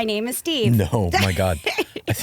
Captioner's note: laughing